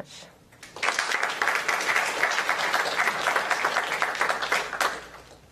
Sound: applause

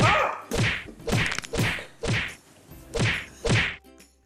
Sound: death cry

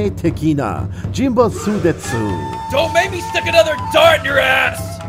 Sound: angry bird noise

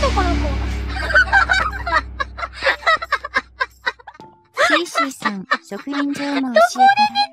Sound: laughs

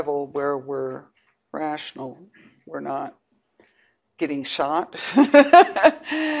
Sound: laughs

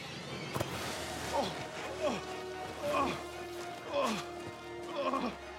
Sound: groaning

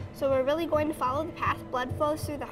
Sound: sound of a heart beat

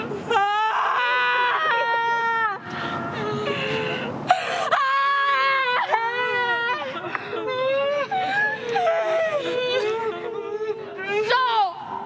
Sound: yelling

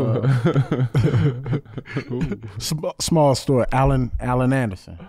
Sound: chuckles

